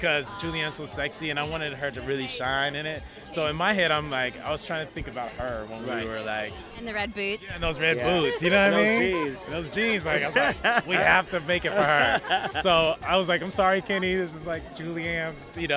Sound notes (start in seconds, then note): 10.0 laughter